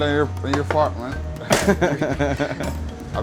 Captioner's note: laughs